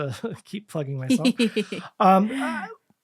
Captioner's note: giggling